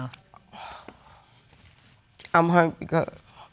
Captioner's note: sighs